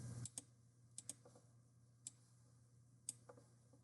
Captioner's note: mouse clicking